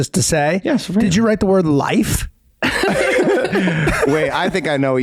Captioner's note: all laugh